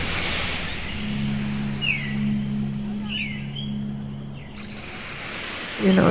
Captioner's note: soundbite of waves crashing, birds chirping